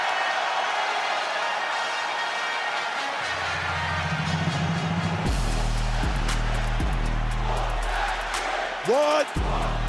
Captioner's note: crowd cheers